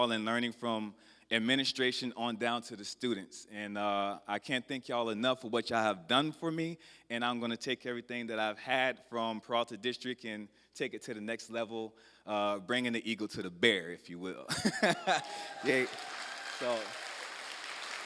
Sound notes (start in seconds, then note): 14.5 laughs; 15.1 applause